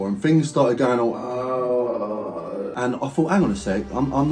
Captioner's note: moaning